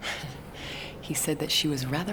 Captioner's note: Katie chuckling